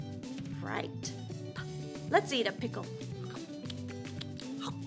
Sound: chews

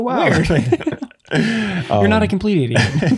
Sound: both laughing; both laughing

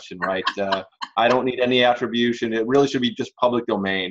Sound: laughs

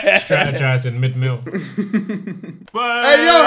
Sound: laughing

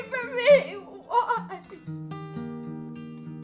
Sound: crying

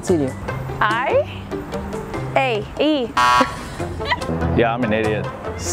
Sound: buzzer beeping

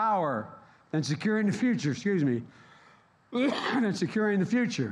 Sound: coughs

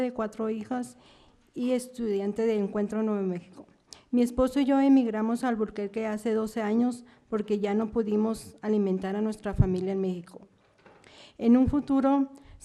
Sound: speaking spanish

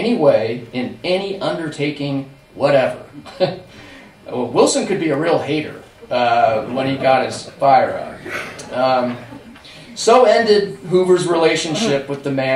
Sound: laughter

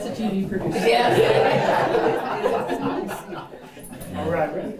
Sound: laughter

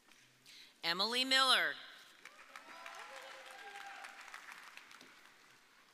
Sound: audience cheering

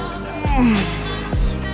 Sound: frustration noises intensify

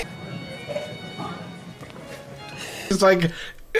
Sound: painful swallow

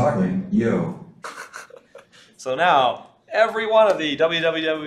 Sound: laughs

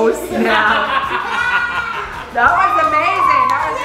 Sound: laughter

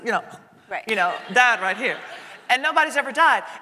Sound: audience laughing

